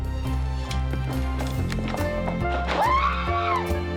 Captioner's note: yells excitedly